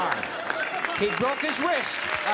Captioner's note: applause